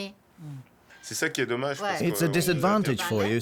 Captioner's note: speaking French